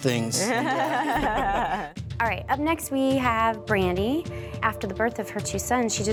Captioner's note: laughter